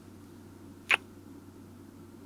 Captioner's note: kiss